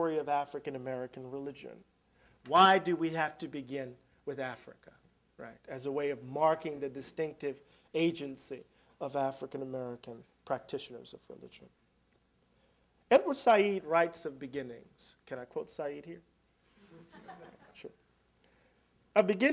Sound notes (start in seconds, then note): 16.8 laughter